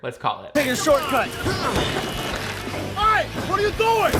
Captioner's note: horns honking